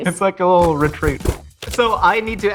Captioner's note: box closing